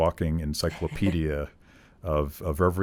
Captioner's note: chuckling